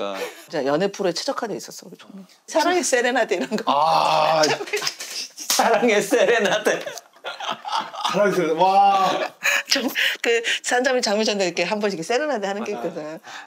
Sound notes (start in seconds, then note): 3.7 exclaiming